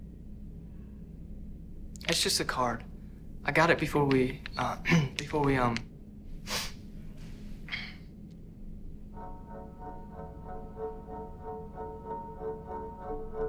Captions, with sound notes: It's just a card. I got it. Before we, uh (coughs) before we, um... (sniffs) (solemn music)